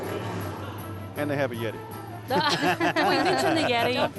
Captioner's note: laughing